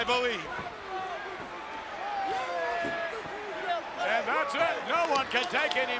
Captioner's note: applause